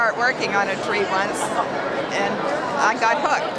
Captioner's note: laughs